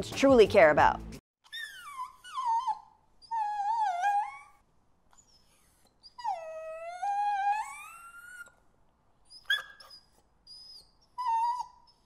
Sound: dogs whimpering

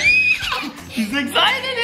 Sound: laughs

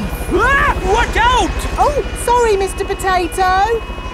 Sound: screams

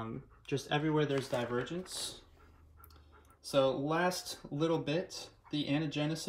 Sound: Koko ferosciously panting in the background

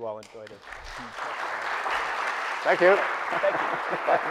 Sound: audience applauding

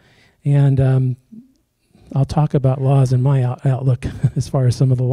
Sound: chuckles

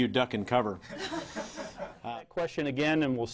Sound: reporters laughing

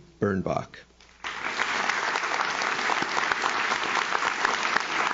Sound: audience claps

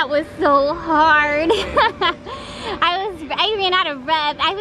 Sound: laughing

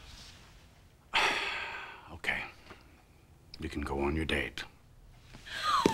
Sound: sighs

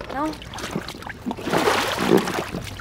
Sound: splashing

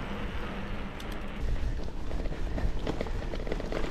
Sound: sound of bikes

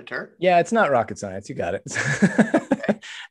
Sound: laughs

